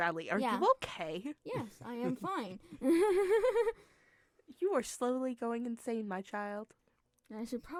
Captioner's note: insane laughter